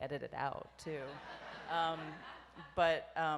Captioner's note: audience laughs